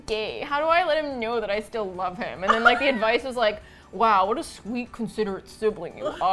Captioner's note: laughs